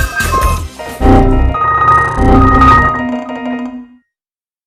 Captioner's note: windows crashing